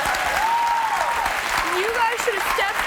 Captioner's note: cheering